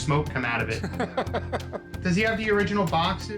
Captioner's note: laughs